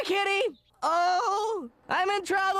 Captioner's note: yelling